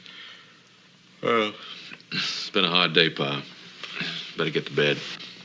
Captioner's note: yawns